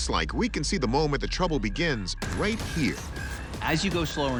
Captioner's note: alarm blaring